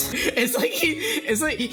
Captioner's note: laughing